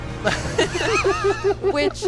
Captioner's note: all laughing